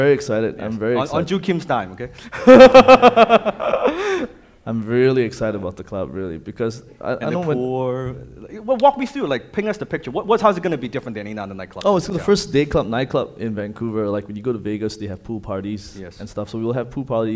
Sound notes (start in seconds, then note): 2.3 laughing